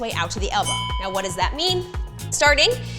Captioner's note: bell chimes